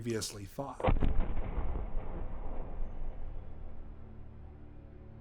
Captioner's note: thunderous booming